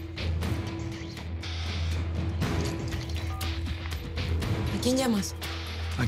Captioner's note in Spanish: Sonido al marcar